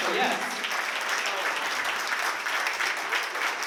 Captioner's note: applause